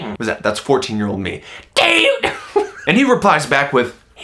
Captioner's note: laughing